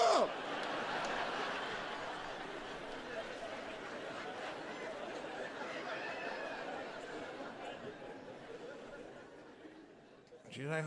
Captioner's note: laughter